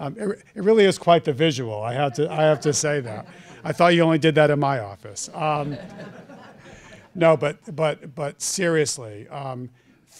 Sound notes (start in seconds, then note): 5.3 laughter